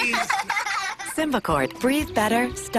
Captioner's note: children giggle